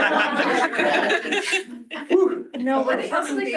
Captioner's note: laughter